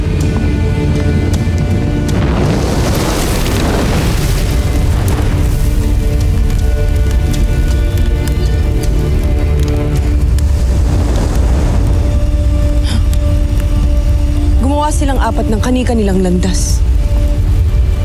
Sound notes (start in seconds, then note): 0.0 fire crackling; 2.6 infernal whoosh-crackle; 5.1 fire crackling; 5.1 mystical music playing